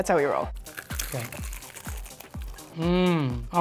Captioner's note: crispy skin crunching